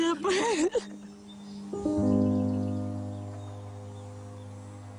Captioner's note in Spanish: Sollozos